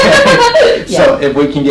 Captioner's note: laughing